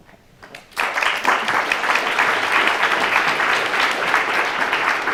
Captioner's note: audience applause